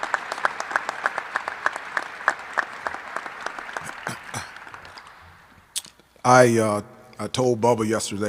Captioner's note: applause